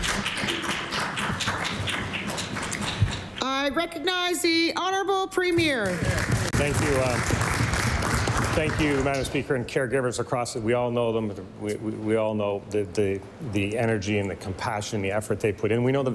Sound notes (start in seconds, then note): 5.8 some Applause; 10.2 applause